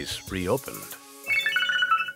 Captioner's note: phone rings